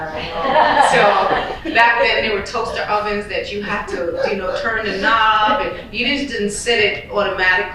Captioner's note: laughter